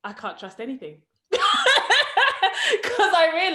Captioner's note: laughs